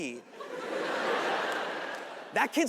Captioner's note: audience laughing